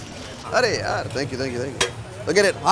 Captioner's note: paper rustling; speaking in foreign language